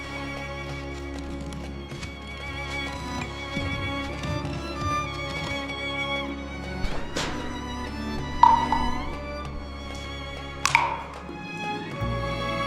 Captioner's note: water splashing; cracking sounds